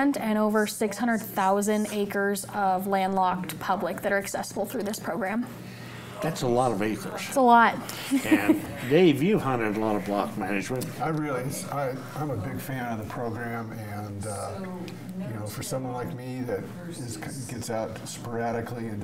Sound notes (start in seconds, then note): 8.0 laughs